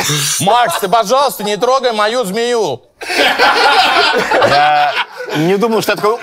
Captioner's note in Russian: смех